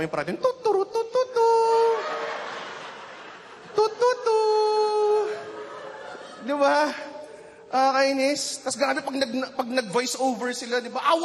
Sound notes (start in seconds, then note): 0.3 imitating trumpet; 1.1 laughter